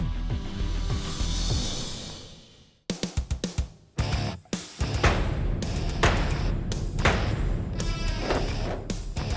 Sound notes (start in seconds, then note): 4.9 blade impacts